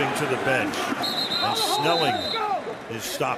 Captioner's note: whistle